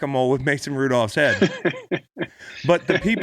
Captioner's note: laughing